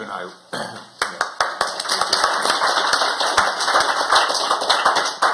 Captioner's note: applause